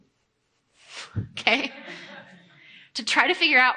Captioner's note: audience chuckling